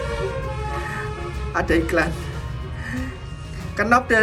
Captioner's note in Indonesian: ada iklan, suara Bis telolet